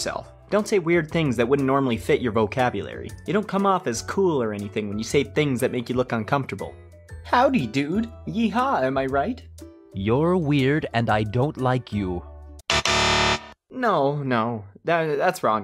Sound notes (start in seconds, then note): 12.6 incorrect buzzer sound